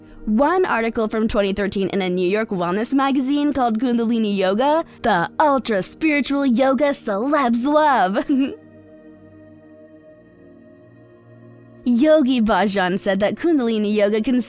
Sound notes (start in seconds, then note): 8.1 chuckles; 9.0 soft music